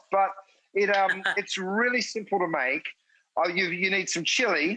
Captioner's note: Rachael chuckles